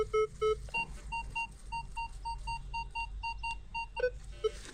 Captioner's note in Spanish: Sonidos del detector